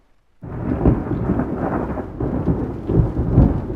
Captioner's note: storm sounds